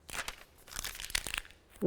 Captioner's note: plastic crinkling